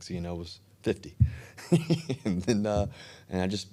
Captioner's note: Russell laughing